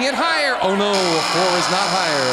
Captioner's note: buzzer